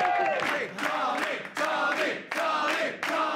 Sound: cheering; chanting

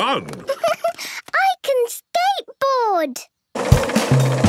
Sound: giggles

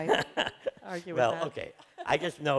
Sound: laughs

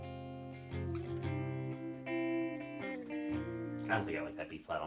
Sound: guitar strumming music; humming

